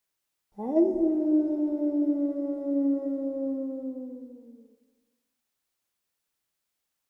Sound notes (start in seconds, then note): 0.6 wolf howling